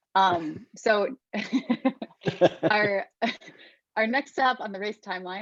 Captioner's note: laughs